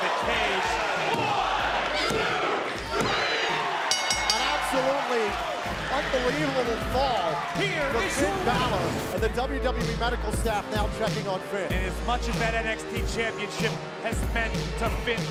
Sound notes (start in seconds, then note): 3.8 bell ringing